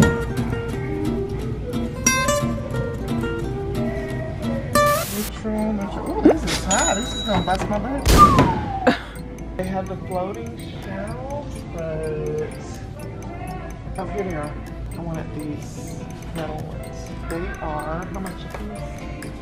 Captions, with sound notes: (guitar music) - Oh, this is high. This is gonna bust my budget. (slide whistle) (laughing) They have floating shelves. Oh, here they are. I wanted these metal ones. They are, how much?